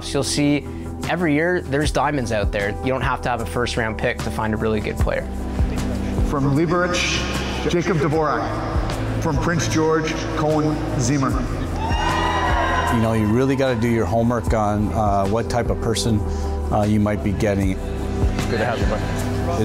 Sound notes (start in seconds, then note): 11.7 crowd cheering